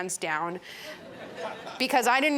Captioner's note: chuckling